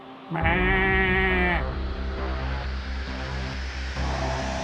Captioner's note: makes deer calls